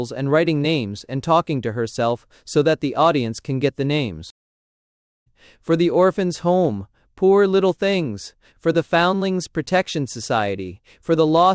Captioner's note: a deep sigh